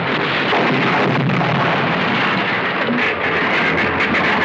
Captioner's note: explosion